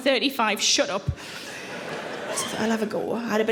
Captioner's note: audience laughing